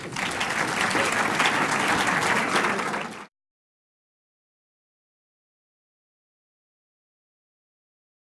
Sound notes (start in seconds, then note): 0.0 applause; 3.6 silence